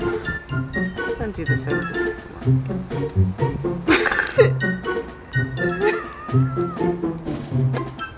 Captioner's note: accidentally cuts instead of strips wire, laughing